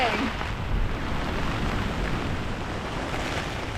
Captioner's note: rain & wind